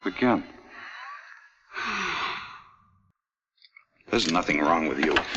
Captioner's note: Ellen sighs